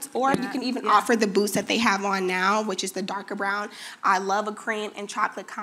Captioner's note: none